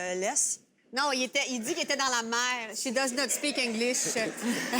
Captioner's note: speaks in french